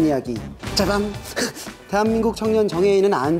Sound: ba-bam / Self sound effect

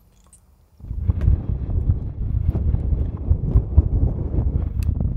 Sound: wind rushing

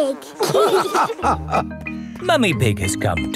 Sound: all laughing

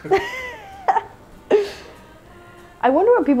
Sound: laughing

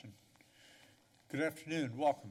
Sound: pause

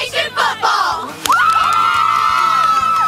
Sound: cheering

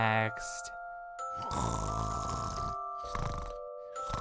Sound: snoring

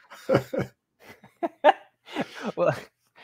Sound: laughter

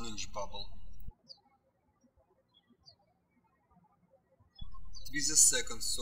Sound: birds chirping

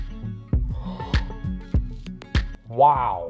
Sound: sighs in disbelief

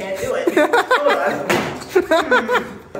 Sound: ceiling bonk

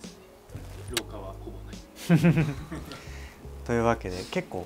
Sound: laughs

